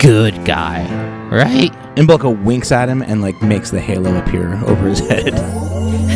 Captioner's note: laughs; magical sound